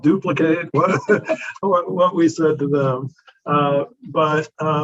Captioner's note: both laughing